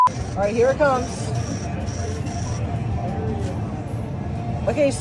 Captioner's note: mechanical operation